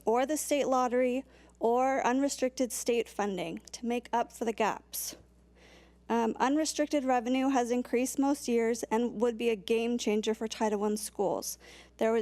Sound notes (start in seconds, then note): none